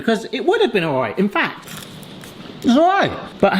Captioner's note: bean crunches